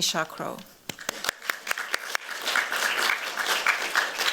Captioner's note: applause